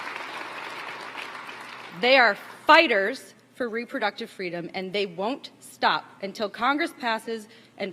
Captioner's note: applause